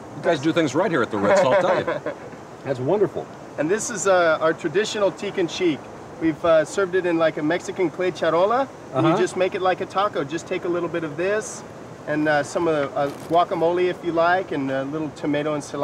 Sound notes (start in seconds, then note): 1.2 laughing